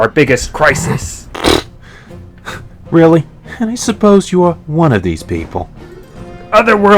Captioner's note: s scoffs